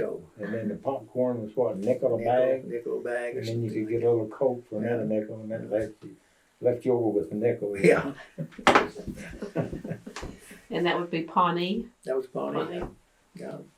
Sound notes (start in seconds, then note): 7.5 laughs